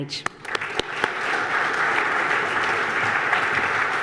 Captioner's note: audience applause